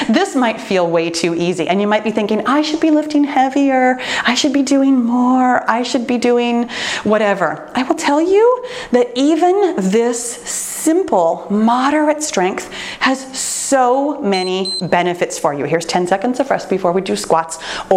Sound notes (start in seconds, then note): 14.3 timer beeps